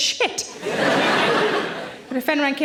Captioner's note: audience laughing